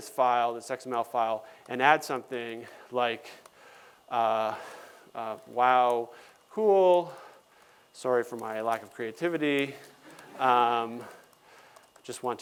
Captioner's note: laughter